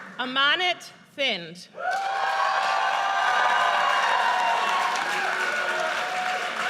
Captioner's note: audience cheers